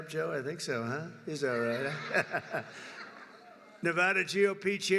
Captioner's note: laughter